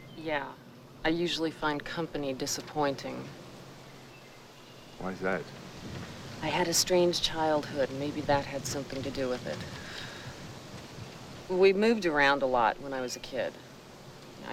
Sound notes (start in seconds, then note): none